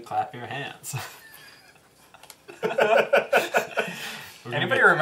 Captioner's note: all laugh